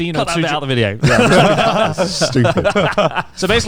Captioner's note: all laughing